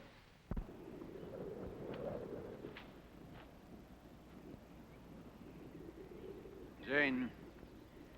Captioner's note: wind blowing softly